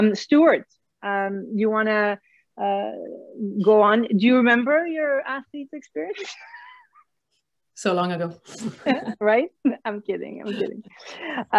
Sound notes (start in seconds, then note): 7.1 laughs